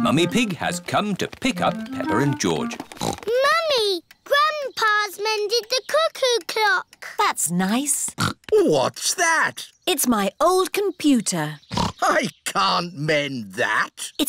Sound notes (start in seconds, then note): 2.8 snorts; 8.1 snorts; 11.6 snorts